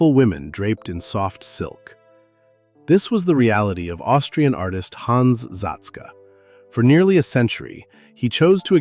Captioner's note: thoughtful